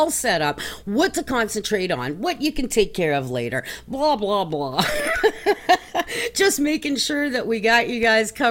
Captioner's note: laugh